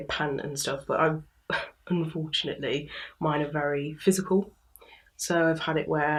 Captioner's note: scoff